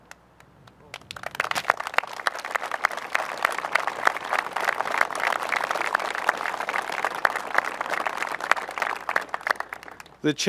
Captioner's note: applause